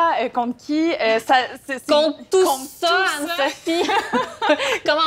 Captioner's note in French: rires